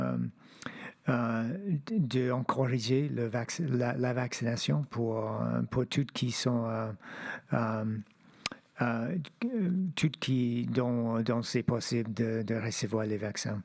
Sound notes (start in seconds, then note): 2.2 speaking French